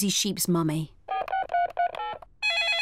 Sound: dialing; phone rings

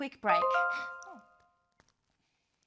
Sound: phone chimes

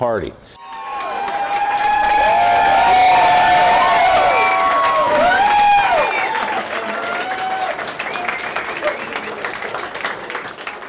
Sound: applause

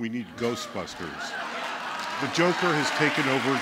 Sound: laughter

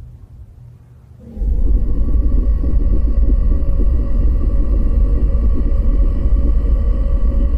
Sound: eerie distorted noise

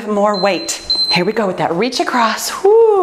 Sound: timer beeps

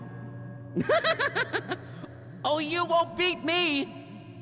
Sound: laughs

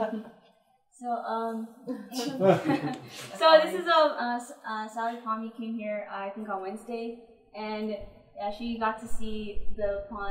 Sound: laughter

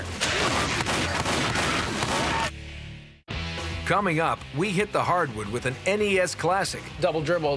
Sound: gunshots

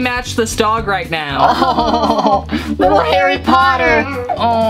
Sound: laughing

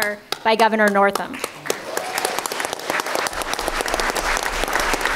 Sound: applause

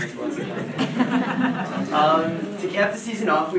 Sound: audience laughing

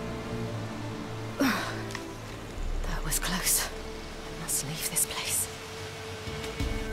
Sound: groan

